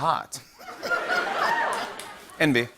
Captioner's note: laughter